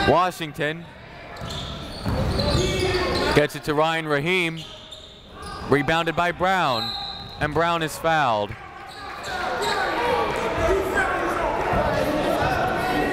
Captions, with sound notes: Washington gets it to Ryan Rahim. Rebounded by Brown. (whistle) And Brown is fouled. (chatter)